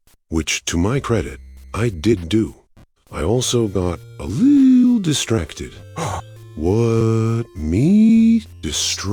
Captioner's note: gasp